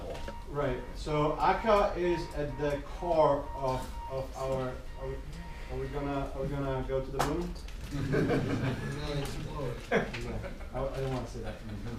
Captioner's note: people laughing loud